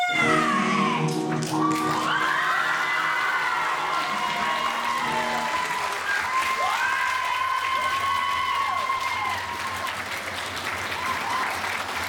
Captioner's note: applause